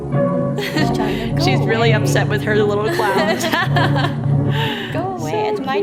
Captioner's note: laughs